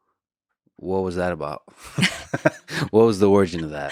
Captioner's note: laughs